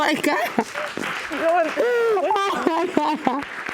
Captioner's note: sobbing